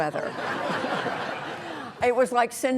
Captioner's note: audience laughing